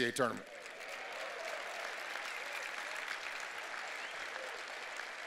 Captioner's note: cheers and applause